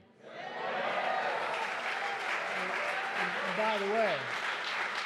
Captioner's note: applause